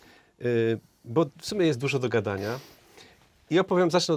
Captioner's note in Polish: parsknięcie